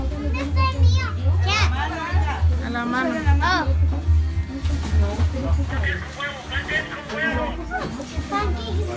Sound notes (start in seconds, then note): 1.1 speaking Spanish